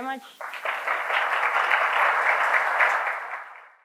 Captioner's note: audience clapping